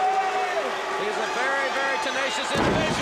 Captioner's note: crowd chatter